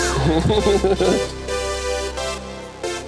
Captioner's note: laughing